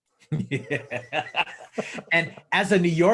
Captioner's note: all laughs